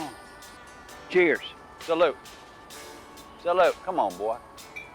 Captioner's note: speaking in foreign language